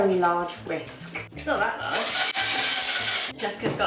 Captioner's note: whisk whirs